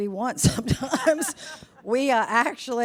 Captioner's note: chuckles